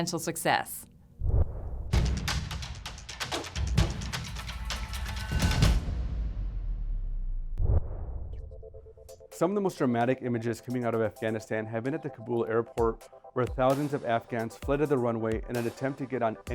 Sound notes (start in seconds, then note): 1.2 swoosh; 1.9 upbeat ambient music; 5.2 swoosh